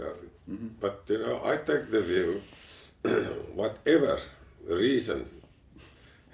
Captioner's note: cough